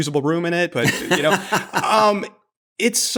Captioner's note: laughter